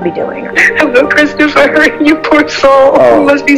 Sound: chuckling

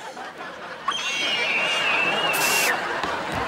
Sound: screaming

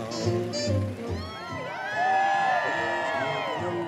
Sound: crowd cheering

